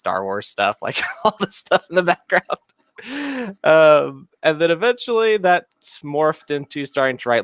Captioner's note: chuckles